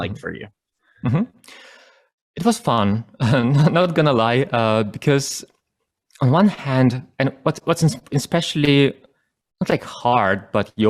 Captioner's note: chuckles